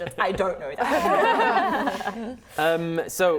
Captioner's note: laughing